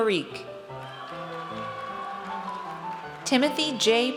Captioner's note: audience cheers